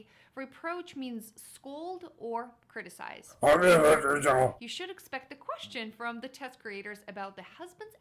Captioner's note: yelling